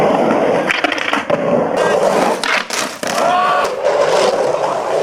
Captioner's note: skateboard wheels whirring